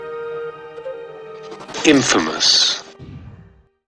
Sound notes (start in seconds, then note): 2.0 voiceover